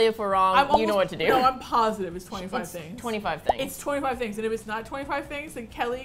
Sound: laughs

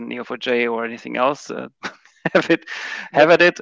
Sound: laughs

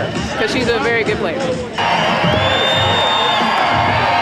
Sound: cheers and applause

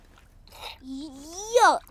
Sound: sips

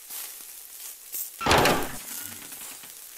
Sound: presumably steak sizzles in the background; p'heh, clank

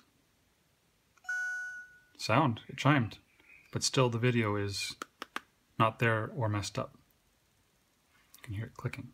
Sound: ~chime~

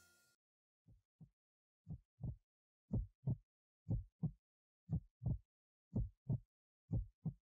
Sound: heart beating

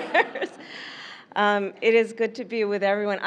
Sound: laughter

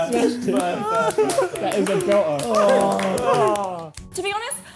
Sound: clapping

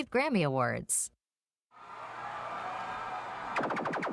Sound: people cheering

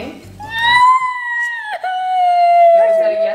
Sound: crying

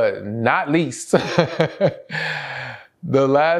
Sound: laughs

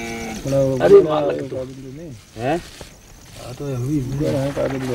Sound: foreign spoken audio

